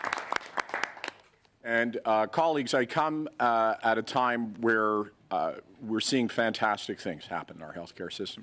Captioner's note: applause